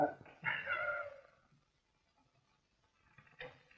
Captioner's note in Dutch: lachend